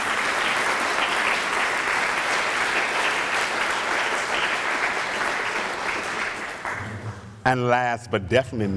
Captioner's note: applause